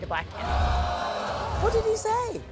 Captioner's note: audience gasps